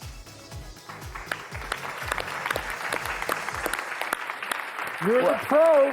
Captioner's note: audience applauding